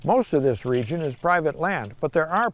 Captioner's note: fence rattles